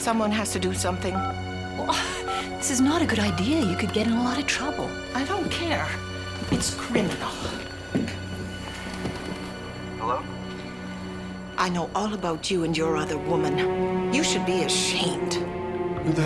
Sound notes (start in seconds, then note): 1.1 phone beeping; 1.6 dramatic music